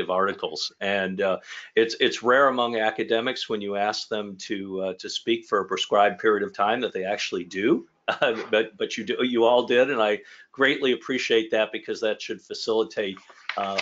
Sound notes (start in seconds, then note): 8.0 chuckles